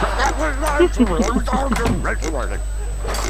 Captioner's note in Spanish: risas